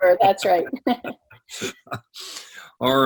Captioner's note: laughing